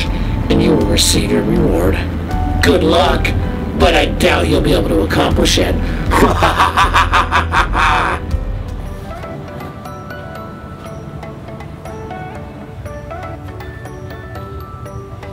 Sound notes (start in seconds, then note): 6.1 evil laughter; 12.5 upbeat music